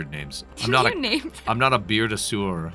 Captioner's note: laughing